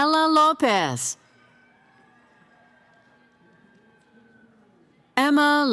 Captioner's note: cheering